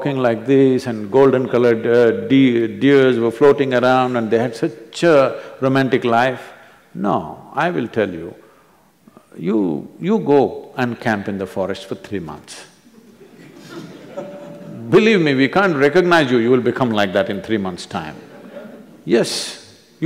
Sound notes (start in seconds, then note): 12.9 few laugh; 19.0 few laugh